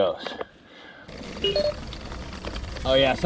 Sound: beeps

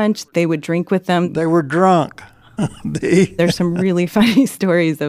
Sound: laughs

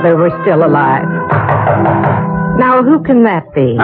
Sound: knocking at the door

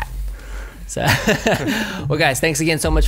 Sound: laughs

